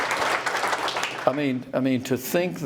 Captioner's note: applause